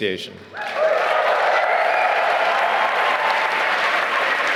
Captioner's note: applause